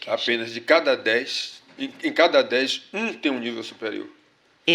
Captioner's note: speaking portuguese